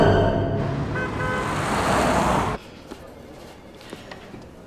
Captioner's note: horn honking